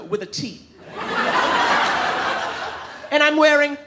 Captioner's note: audience laughing